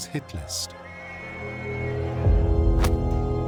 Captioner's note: police whistles